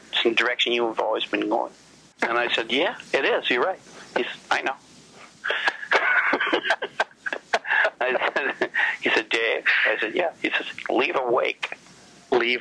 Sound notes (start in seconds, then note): 5.3 laughs